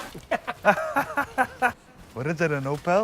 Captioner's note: laughing